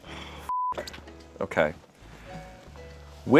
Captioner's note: beep